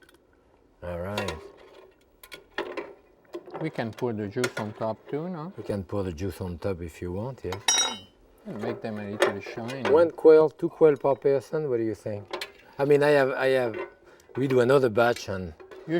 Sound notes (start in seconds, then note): 2.2 tongs clinking; 7.6 spoon clinking